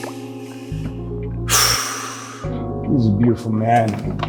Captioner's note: sighs